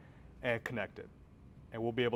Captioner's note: none